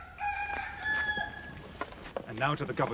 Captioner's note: cockerel crows